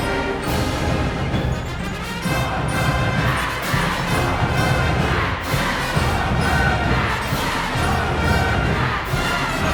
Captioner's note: crowd chanting